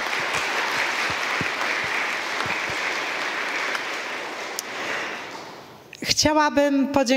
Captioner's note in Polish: oklaski